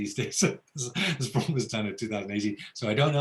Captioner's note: laughs